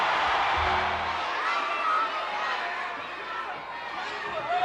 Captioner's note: crowd cheers; bell tolls; crowd clamors